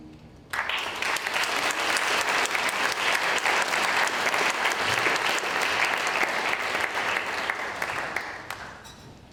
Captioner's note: applause